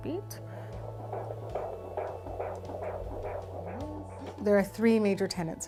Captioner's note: sound of baby's heart beating through Doppler